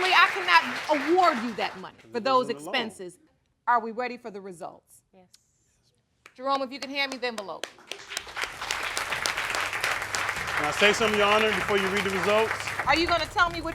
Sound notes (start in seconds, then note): 8.4 audience clapping